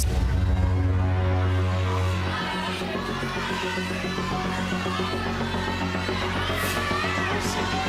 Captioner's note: tense music continues; crowd cheering bets